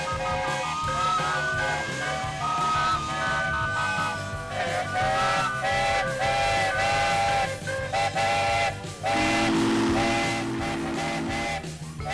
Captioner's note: steam engine whistle